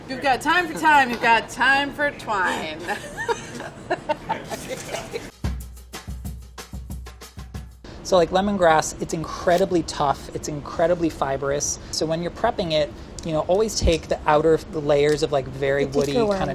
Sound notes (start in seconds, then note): 2.4 laughing; 4.0 upbeat percussion music